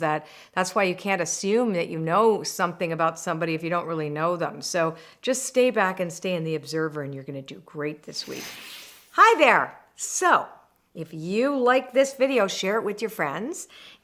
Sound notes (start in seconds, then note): 8.2 loud whooshing